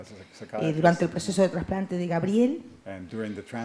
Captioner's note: Spanish language